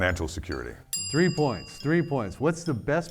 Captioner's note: bell dings